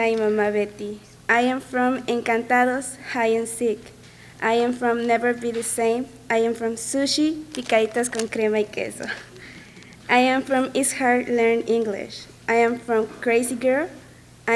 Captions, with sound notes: I am from encantados, hide-and-seek. I am from never be the same. I am from sushi (speaks in foreign language) I am from it's hard to learn English. I am from crazy girl.